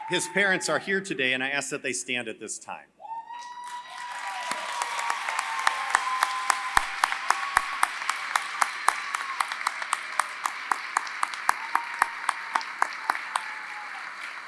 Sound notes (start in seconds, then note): 3.5 applause